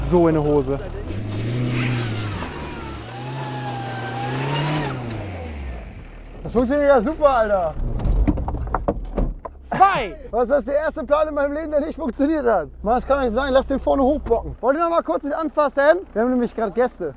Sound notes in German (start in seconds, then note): 3.4 Auto beschleunigt